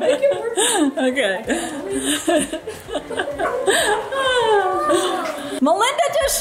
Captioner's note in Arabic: يضحك